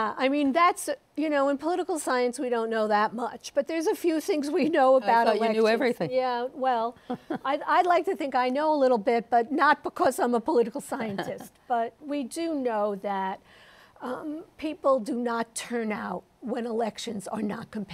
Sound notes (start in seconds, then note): 7.0 chuckles